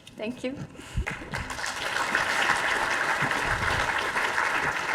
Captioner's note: audience applauding